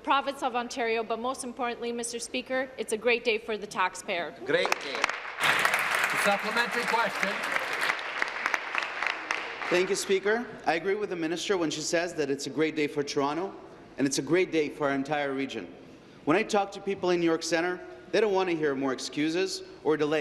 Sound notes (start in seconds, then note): 8.7 applause